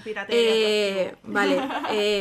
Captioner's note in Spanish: risas